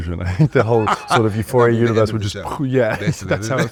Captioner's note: mimics explosion